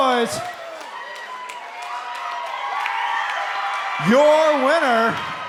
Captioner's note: crowd cheering